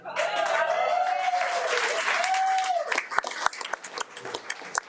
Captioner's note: audience cheering